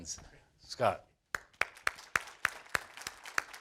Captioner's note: applause